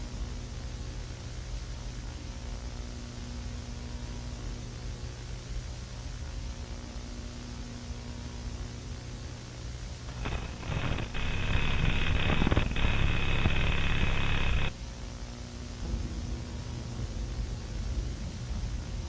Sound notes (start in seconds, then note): 11.9 static hissing